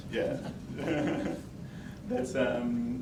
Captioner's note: laughs